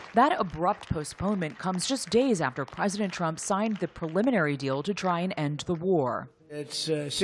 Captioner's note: applause